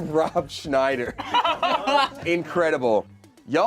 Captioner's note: laughs